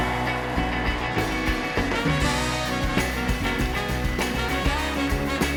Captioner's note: applause